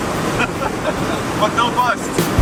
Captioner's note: laugh